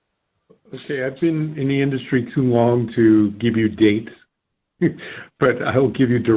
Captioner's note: laugh